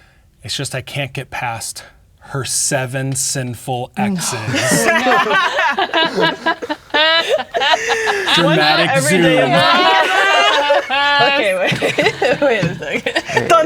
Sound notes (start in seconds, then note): 5.1 players laughing; 8.8 all talking and laughing